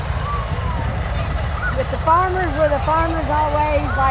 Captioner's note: revving continues